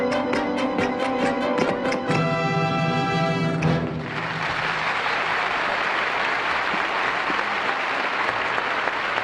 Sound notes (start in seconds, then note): 0.0 groovy music continues; 3.8 audience applauding